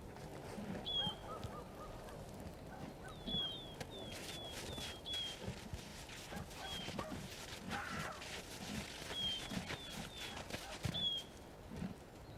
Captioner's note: bird cries